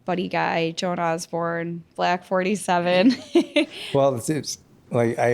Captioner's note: laughs